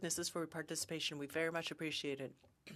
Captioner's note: speaking French